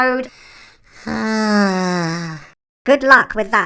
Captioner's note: long despairing sigh